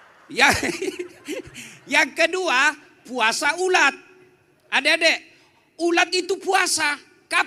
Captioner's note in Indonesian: tertawa